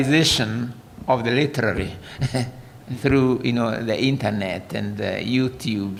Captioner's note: laughter